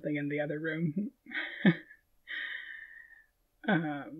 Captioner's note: laughing